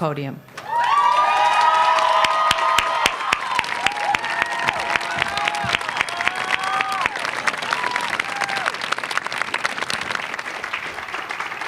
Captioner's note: cheers and applause